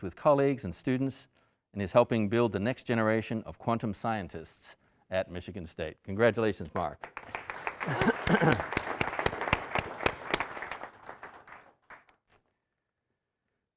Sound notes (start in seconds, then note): 7.0 audience applauding